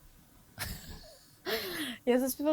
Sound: laughing

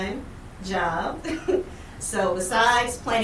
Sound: chuckles

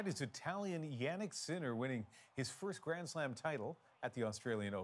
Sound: cheers and Applause

